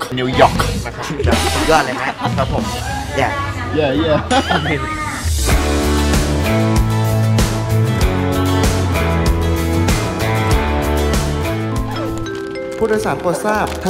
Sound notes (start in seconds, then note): 4.0 chuckles; 5.5 uplifting music playing; 11.8 airplane announcement